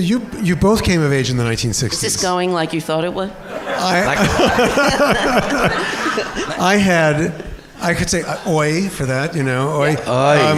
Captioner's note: laughter